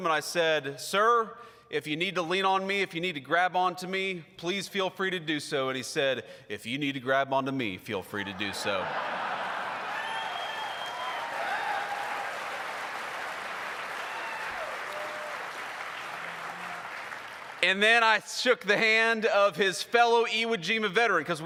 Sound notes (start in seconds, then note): 9.3 applause